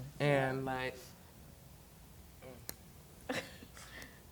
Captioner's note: exhale